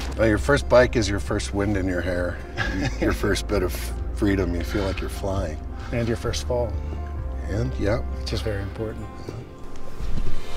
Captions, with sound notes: - Where your first bike is your first wind in your hair. (laughing) Your first bit of freedom, you feel like you're flying. - And you're first of all. - And yeah. - Which is very important.